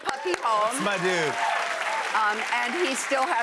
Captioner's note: cheers and applause